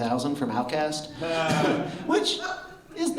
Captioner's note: short laugh